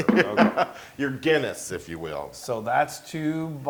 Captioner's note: laugh